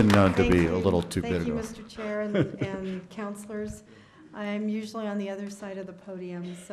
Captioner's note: applause